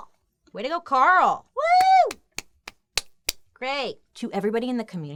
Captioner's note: clapping